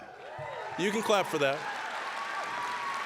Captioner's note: scattered cheering; applause